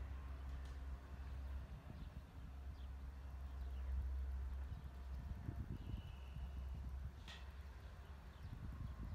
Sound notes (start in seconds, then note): 0.3 birds; 5.3 coach's whistle